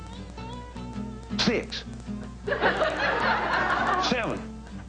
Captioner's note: people laughing